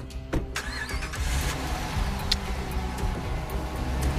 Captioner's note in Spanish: Sonido al arrancar el motor